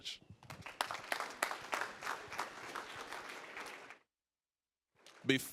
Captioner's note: applause